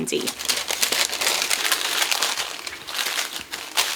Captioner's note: paper rustling